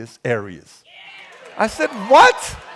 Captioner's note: crowd cheering